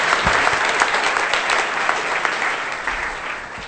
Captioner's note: applause